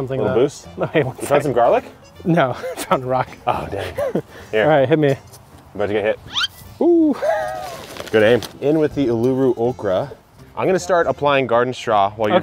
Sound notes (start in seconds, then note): 6.3 musical note squeaks